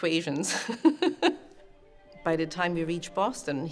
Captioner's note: laughs